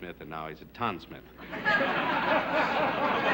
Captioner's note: laughter